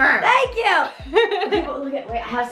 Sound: laughs

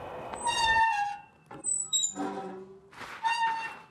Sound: swings squeaks

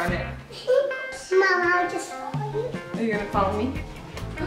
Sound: giggles

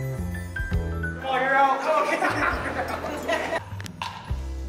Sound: laughter

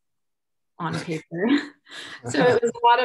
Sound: chuckles

